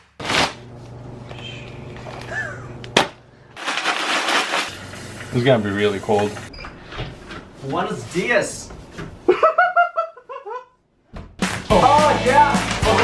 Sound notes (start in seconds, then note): 9.2 evil laugh